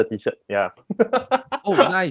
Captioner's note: laughs